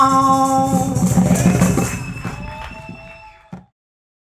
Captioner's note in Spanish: Aclamaciones y aplausos